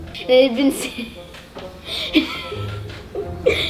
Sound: laughing; laughs

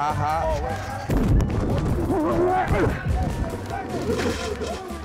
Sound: tackle noises

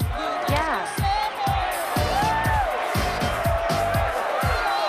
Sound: cheering

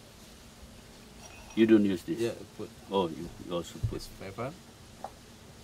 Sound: speaking

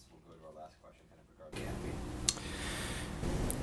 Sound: deep breath

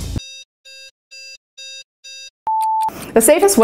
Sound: clock beeping

